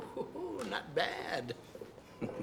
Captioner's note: sighs